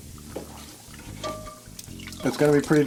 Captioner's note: pan hits plastic tub